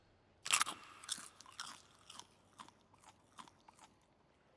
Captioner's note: crunch, munch, munch, munch, munch